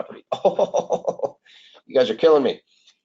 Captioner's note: laughs